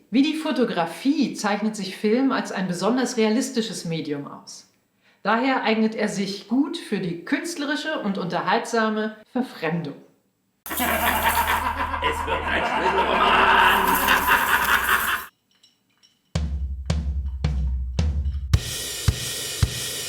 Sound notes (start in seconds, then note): 10.6 diabolical laughter